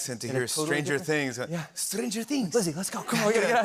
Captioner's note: Italian accent